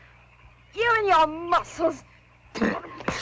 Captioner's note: spits